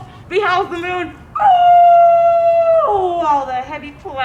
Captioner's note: howling